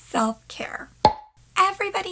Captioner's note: pop